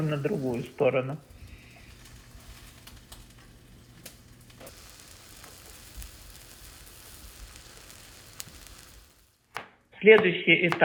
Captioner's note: frying